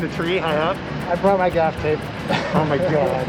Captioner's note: chuckles